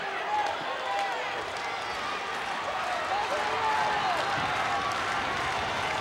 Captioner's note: audience cheering and applauding